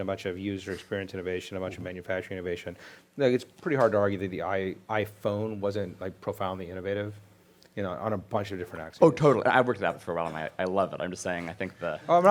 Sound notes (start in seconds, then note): 9.1 voiceover